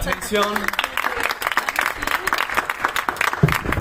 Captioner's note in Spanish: aplausos